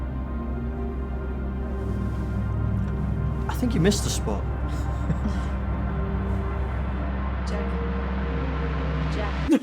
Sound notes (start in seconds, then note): 4.7 Mae and Calvin chuckle; 6.6 suspenseful music